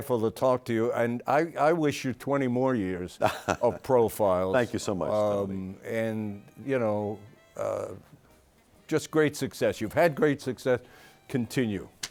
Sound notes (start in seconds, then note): 3.2 laughs